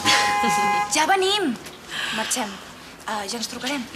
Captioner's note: clàxon